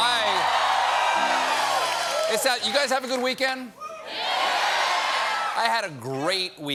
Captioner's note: cheers and applause